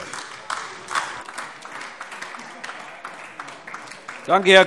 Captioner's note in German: Beifall AfD